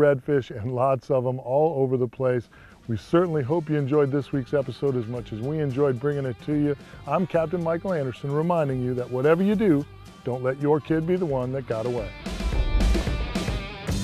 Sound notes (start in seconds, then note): none